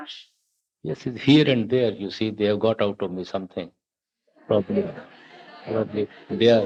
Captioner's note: laughter